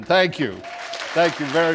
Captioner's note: applause